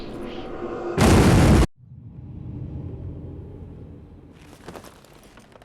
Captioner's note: loud explosion, interrupted by silence